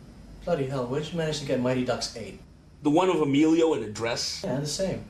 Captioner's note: none